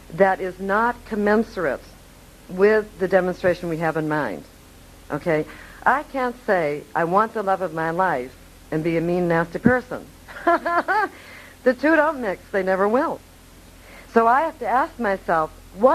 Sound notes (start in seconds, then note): 10.3 laughing